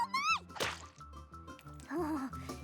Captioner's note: splat!